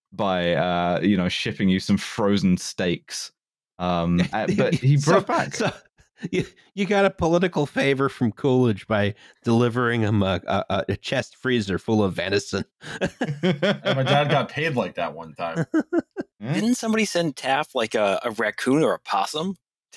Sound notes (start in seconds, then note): 3.9 laughing; 12.8 laughter